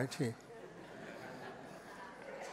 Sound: laughter

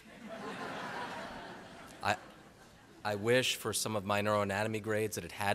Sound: laughter

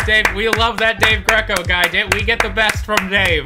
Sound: clap clap clap

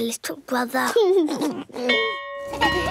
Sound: giggles; bell ringing

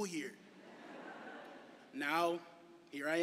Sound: laughter

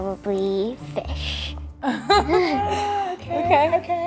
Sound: laughs

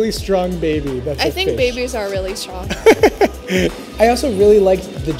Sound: laughs

